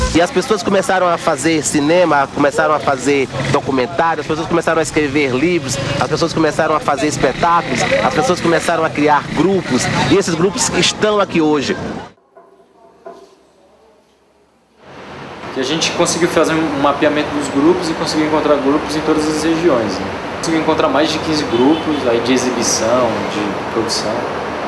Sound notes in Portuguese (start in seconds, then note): 11.7 Silêncio